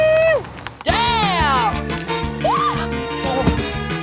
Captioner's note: shrieks